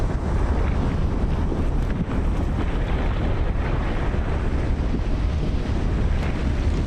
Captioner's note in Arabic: صوت انفجار